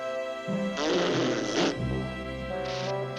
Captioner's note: blows raspberry